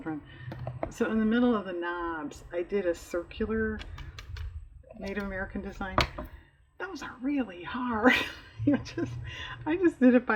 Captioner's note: laughs